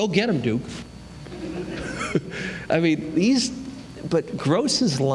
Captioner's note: laughter